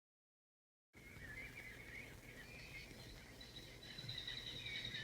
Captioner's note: birds calling